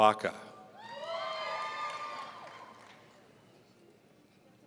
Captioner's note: audience cheering